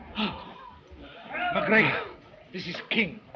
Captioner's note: panting